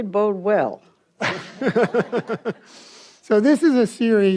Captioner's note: audience laughs